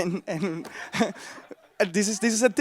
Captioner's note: crowd laughs